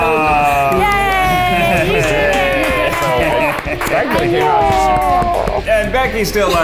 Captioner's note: people applaud